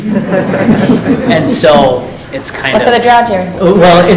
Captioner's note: board laughing